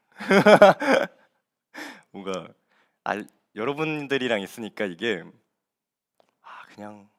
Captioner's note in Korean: 웃음